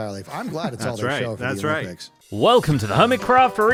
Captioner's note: group chuckles